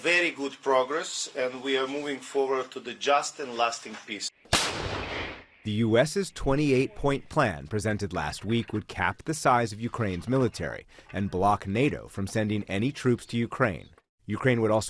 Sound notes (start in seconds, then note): 5.7 voice-over